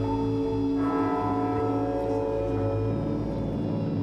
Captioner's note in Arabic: دقات الأجراس